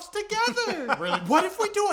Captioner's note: laughing